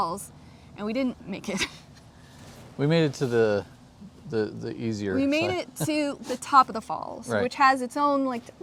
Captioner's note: laughs